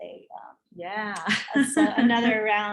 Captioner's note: laughs